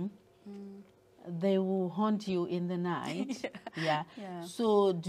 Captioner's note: laughter